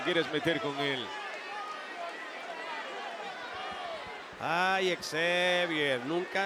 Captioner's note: applause